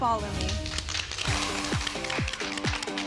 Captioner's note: applause